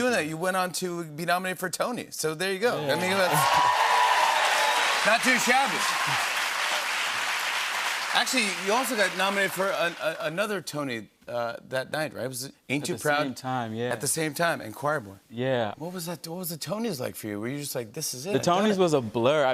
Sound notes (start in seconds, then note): 2.9 cheers and applause